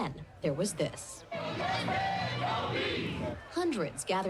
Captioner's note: people protesting